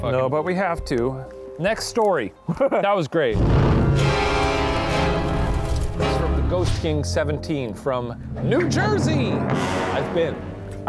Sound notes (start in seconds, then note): 3.3 intense creepy music; 3.6 smoke whooshing